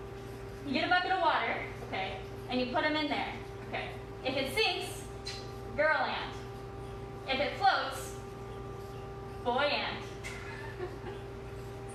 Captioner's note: laughs